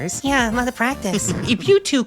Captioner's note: guk and sigbert stifle laughter